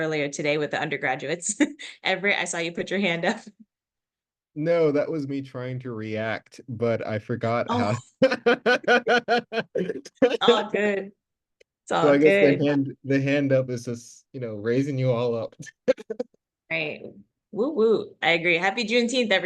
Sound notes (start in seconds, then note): 15.6 laughs